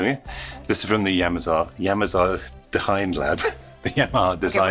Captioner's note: stutters